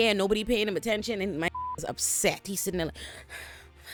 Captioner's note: beep